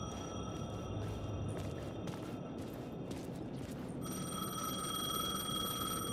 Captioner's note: phone ringing